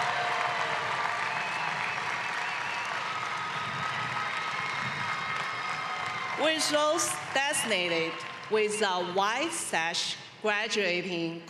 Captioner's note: cheering and applause